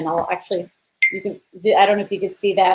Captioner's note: beep